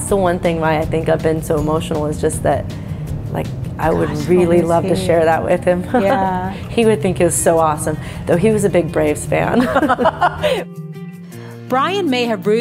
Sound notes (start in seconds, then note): 9.6 laughs